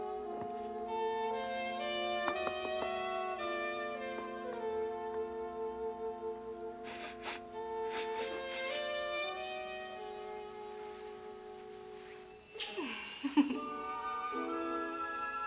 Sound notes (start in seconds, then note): 6.8 sniffs; 12.6 venus chuckles